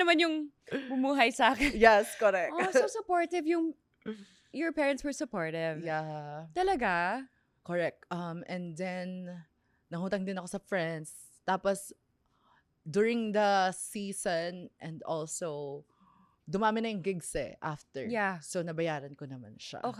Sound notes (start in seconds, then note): 0.0 laughs